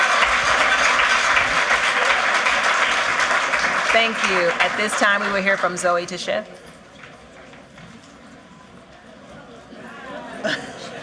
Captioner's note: cheers and applause